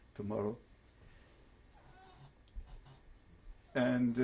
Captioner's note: pauses for 3 seconds